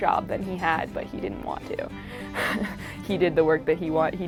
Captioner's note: laughs